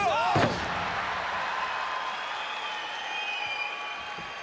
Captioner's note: crowd cheering